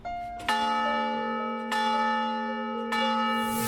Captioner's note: bell ringing